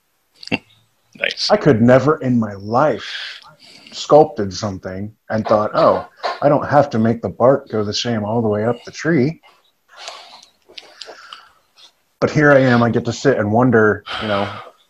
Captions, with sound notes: - (chuckle) Nice. I could never in my life sculpted something and thought, "Oh, I don't have to make the bark go the same all the way up the tree." But here I am, I get to sit and wonder, you know,